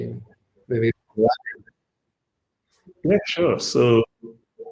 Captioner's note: audio drops